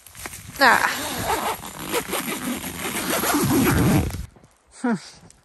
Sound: sound of zipper closing

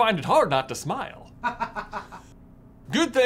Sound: laughter

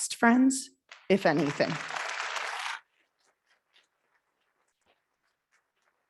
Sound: audience clapping

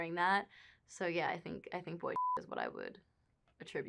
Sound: beep

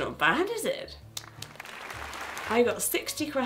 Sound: clapping

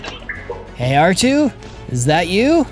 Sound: R2-D2 beeps

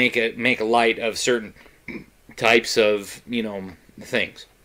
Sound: burps

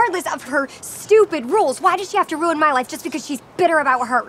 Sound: none

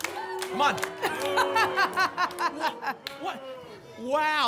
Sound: laughs

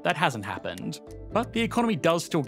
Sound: numbers clicking

